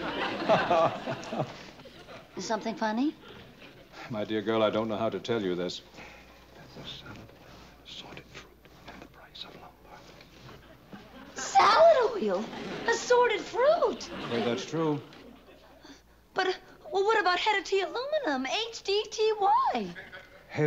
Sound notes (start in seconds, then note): 0.0 laughter; 6.1 whispering